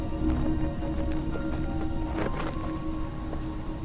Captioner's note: footsteps pattering; insects chittering